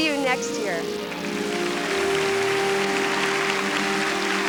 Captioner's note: applause